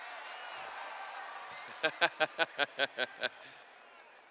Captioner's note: laughter